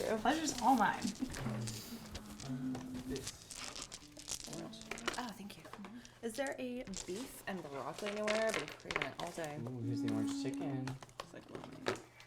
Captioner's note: general murmur